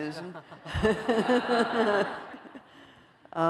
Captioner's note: laughter